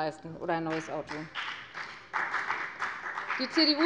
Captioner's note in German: Beifall bei der FDP